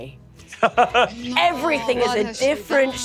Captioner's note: laughs